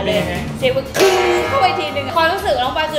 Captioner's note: clank!